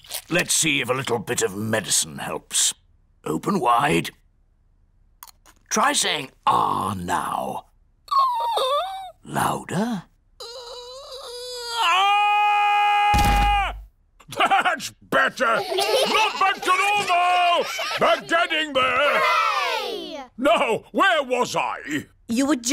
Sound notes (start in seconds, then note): 8.3 squeaks; 10.6 squeaks; 12.3 shouts; 13.1 thudding; 15.4 chuckles; 15.4 children giggling